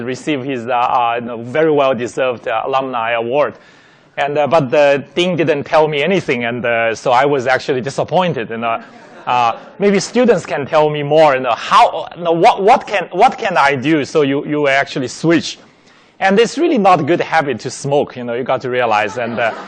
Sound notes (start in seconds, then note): 8.8 laughing